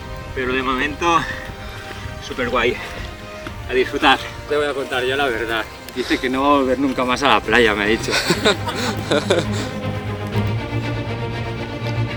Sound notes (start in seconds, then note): 7.9 laughs